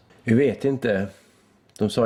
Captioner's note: awkward pause